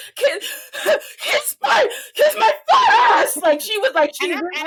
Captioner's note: laughing